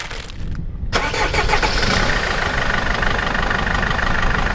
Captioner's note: engine noise